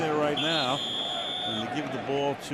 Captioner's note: whistle